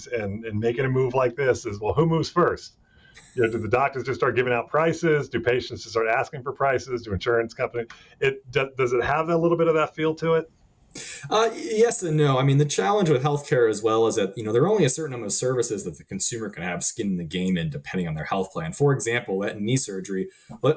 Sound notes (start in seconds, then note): 3.4 laughing